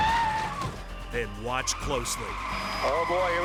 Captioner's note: tires screeching